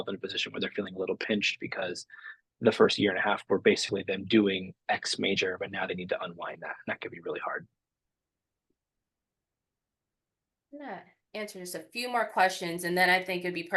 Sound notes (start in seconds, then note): 8.5 silence